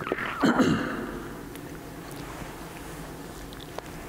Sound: clears throat

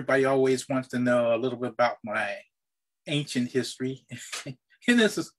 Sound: chuckles

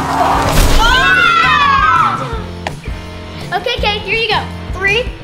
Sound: group cheers

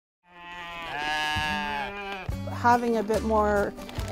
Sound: sheep Baaing

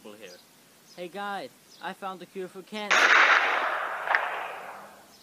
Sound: gunshot

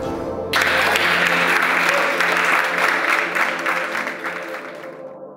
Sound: spectators applauding

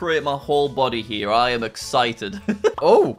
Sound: chuckles

